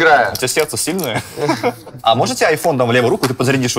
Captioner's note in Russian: все посмеиваются